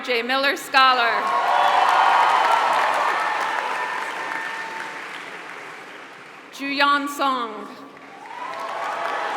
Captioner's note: applause; applause